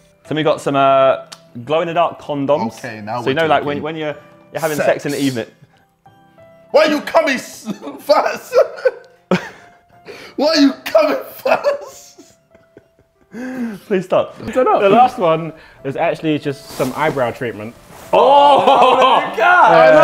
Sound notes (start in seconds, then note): 7.6 laughs; 9.1 Josh laughing; 11.3 both laughing; 18.2 laughs